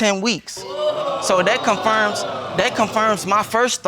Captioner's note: audience exclaiming